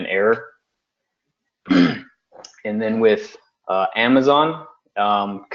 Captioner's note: cough